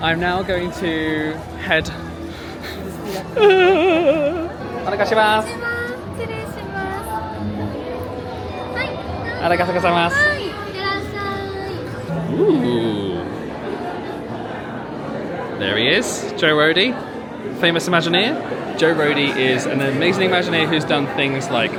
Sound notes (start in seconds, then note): 3.0 whimpering; 5.1 cast speaking Japanese